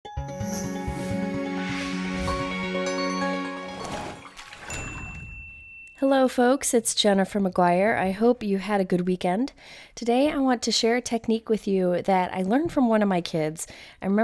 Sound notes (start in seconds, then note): 0.0 cheerful music; 1.0 water splashing; 5.1 bell rings